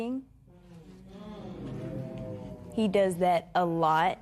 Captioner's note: spectators murmur